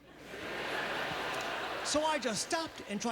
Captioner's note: audience laughter